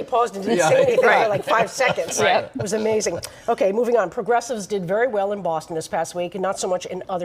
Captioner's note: laughter